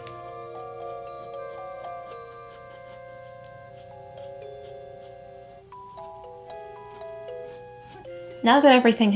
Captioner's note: soft brushing